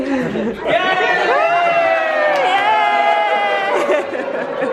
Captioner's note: cheering